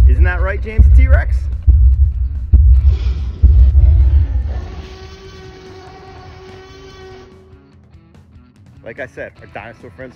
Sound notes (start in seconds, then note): 0.7 stomping sound; 3.8 dinosaur roars; 9.2 upbeat music